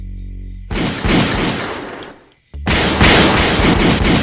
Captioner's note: guns shoot